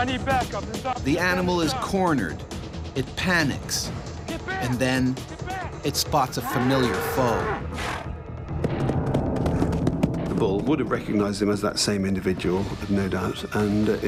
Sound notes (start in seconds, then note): 1.9 voiceover